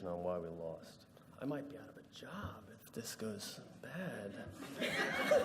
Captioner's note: laughter